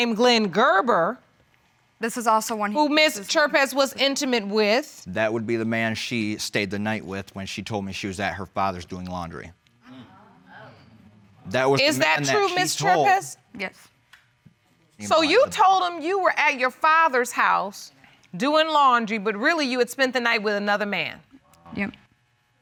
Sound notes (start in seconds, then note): 10.4 audience exclaims